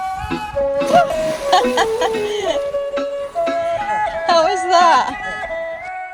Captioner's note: laughs